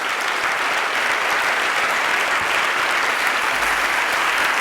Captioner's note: applause